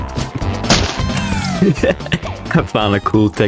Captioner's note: laughs to myself